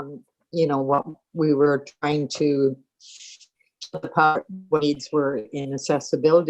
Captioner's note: static audio